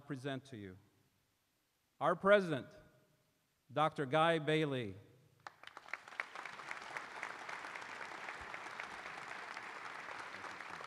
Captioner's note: applause